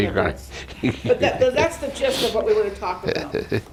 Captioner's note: laughs